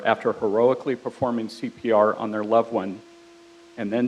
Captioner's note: none